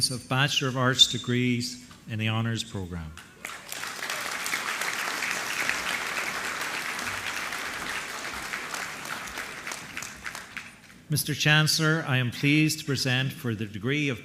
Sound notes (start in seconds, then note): 3.2 applause